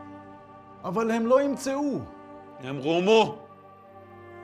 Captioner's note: speaking in Hebrew